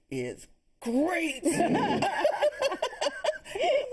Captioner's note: laughter